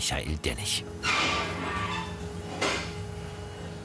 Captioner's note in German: Metallenes Klackern